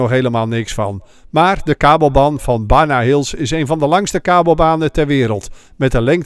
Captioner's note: voiceover